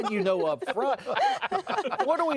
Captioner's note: laughing